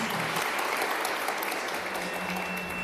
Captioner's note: applause